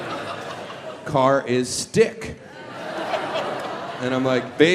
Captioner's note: audience laughs